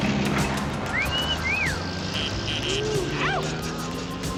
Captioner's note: men catcalling